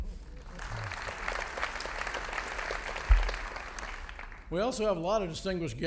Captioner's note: audience applauding